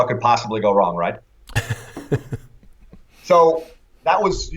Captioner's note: laughter